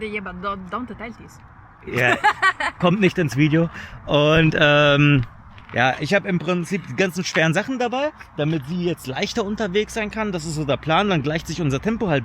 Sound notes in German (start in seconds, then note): 1.8 gelächter